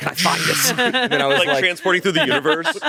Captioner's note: laughing